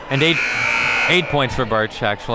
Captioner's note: buzzer buzzes